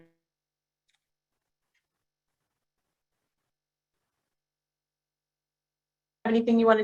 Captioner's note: audio Cuts Out